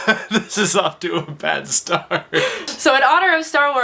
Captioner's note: laughs